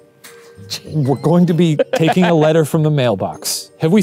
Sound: laughs

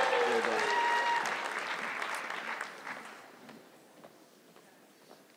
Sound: audience clapping

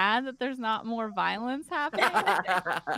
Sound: all laughing

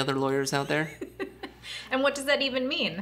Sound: laughing

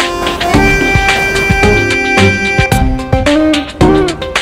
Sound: train rumbles

